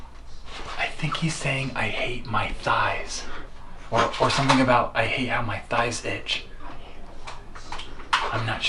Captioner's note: whispering